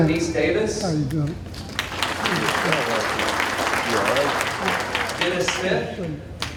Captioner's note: audience applauding